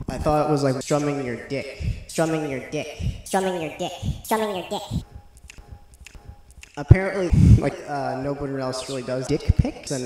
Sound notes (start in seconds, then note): 5.4 gross lip noises; 7.3 breathing